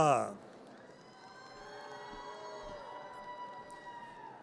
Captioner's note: audience cheers